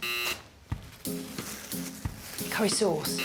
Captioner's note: buzzer